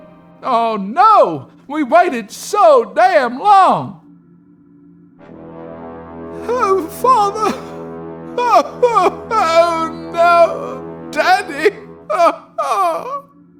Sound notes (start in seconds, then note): 8.4 sobbing